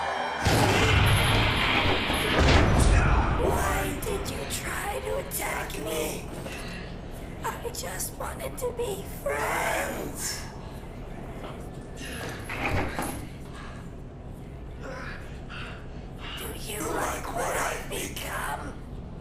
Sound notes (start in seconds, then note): 0.0 sudden ominous music; 0.3 blow thudding; 2.3 Clint thudding and groaning; 12.3 chain rattling; 14.7 Clint groaning softly